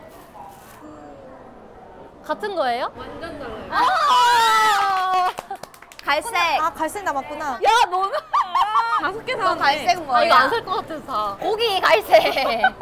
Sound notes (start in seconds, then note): 4.7 laughing